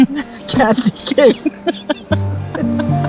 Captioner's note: laughter